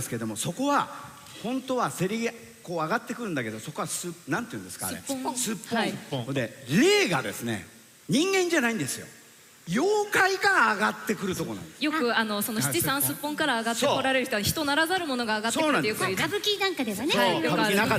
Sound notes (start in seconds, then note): none